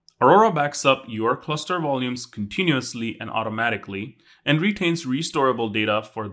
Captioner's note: none